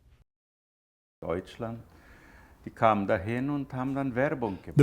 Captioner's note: speaking German